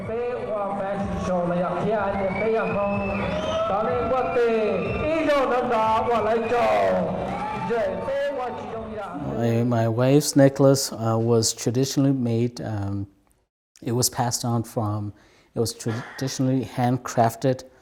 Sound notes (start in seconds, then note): 0.2 announcing speaking Hmong; 4.3 cheering